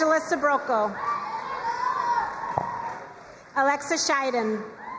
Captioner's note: crowd cheering and applauding; crowd cheering and applauding